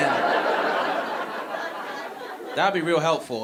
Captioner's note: audience laughing